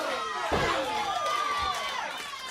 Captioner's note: crowd cheering; crowd chatter